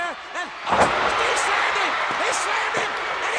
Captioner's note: audience cheers